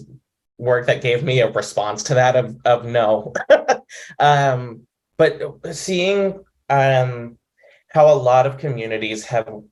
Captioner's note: laughs